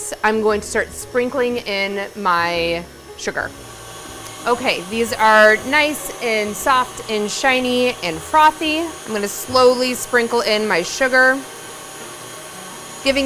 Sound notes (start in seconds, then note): 3.6 stand mixer whirring; 11.5 stand mixer whirring